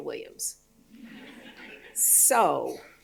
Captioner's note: audience laughing